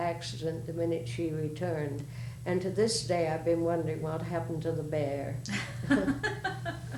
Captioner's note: laughter